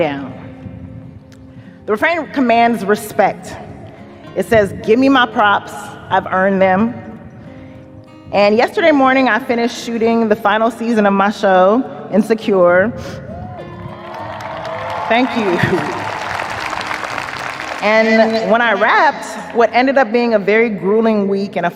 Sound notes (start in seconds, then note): 13.6 audience cheers, applauds